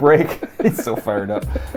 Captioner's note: laughs